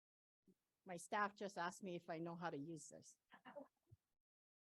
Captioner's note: laughter